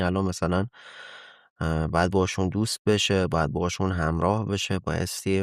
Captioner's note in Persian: صدای آه